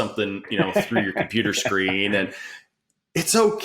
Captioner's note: laughs